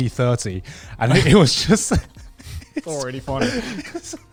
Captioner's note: laughing